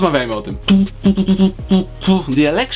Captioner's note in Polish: Wybijanie rytmu